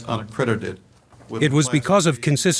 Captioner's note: board member continues faintly